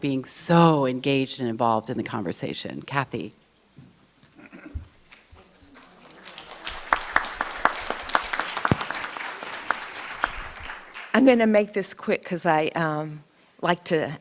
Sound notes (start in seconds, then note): 5.0 audience clapping